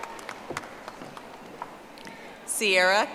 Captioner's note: audience applauding